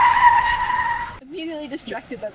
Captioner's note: rooster crowing